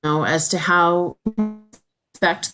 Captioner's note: sound distorts